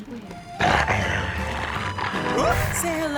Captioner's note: growling